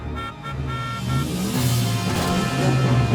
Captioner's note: car horn honking